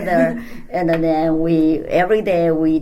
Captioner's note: laughs